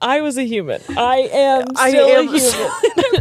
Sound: both laughing

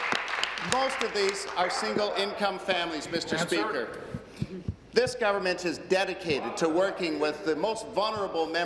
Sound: applause

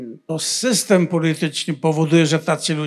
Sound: foreign language

